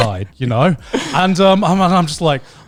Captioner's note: laughs